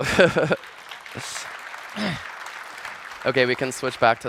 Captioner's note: applause